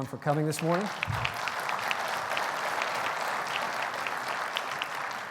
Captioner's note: audience applauding